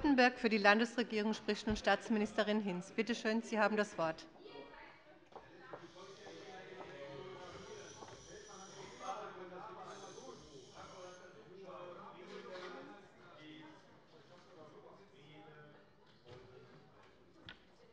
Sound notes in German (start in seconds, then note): none